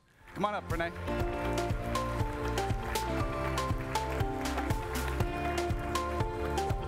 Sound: applause; light happy music

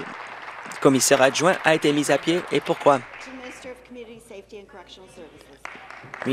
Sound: applause

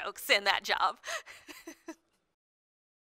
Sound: laughs

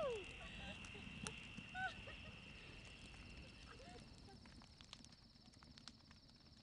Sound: fire crackling; laughter

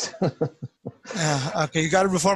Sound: laughs

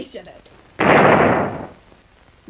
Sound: cannon boom

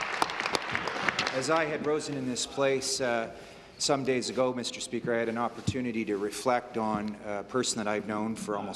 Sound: applause

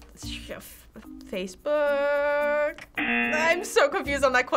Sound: buzzer rings

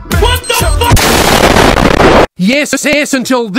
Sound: explosion meme

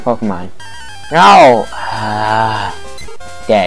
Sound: angry sigh

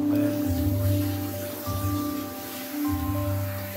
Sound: running water

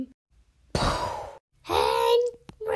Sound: bong!

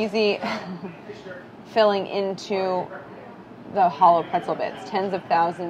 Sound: laughs

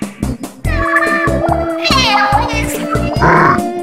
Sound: sad inkling gibberish

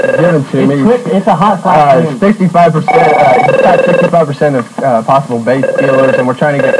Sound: phone ringing; phone ringing; phone ringing

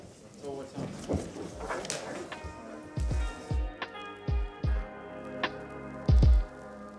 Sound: sounding gavel

